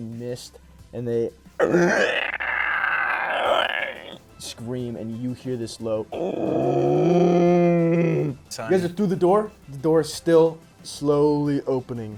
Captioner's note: moaning